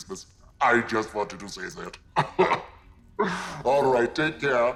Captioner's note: laughs